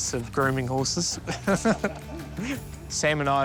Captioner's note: laughs